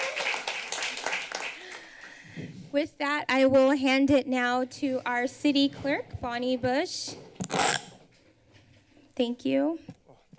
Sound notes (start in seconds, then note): 0.0 applause; 7.3 feedback sound